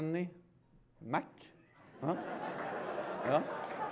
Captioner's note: laughter